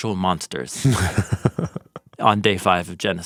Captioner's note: chuckles